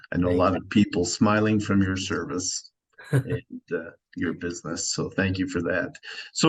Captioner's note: giggle